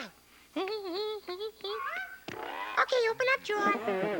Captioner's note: humming